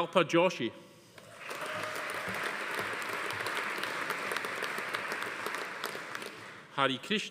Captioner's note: audience applauding; attendee cheering